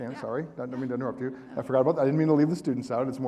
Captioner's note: audience laughing